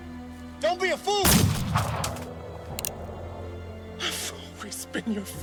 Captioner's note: gunshot blasts